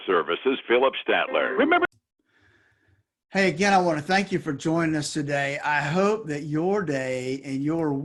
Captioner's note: radio